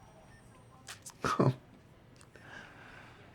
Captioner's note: Florio chuckles